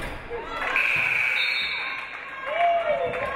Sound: game buzzer buzzes; audience applauding

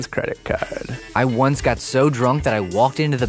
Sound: voiceover

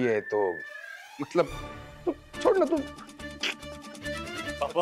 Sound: giggling

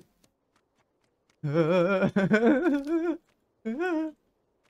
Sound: laughing

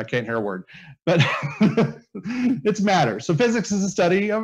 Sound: laughs

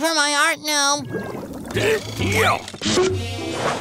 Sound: grunting

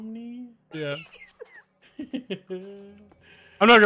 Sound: laugh

